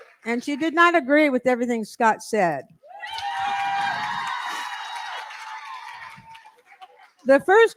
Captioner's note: cheering & applause